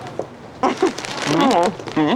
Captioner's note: laughs